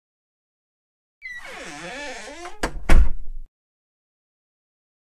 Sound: sound of door

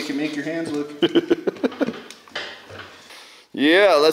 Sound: laughs

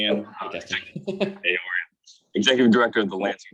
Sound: chuckling

